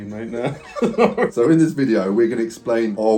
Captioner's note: both laughing